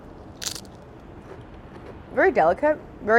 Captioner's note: crunching